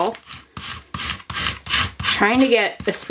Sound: squeegee scraping

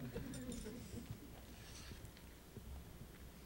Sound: laughter

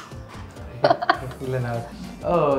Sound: laughing

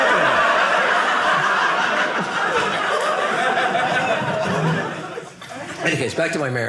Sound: audience laughing

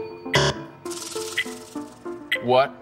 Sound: buzzer

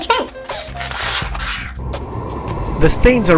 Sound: sound of forced blowing

